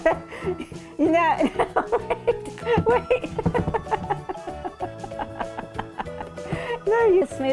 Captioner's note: laughing